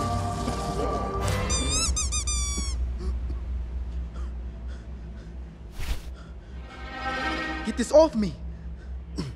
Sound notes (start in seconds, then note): 4.0 scared breathing; 6.2 ominous music